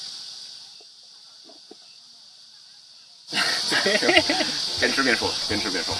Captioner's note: awkward emo silence